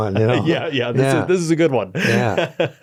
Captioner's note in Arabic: يضحك